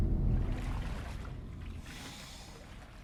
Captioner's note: water splashing